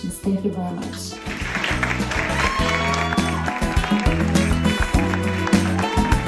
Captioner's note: applause, cheering